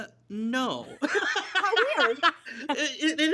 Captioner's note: laughs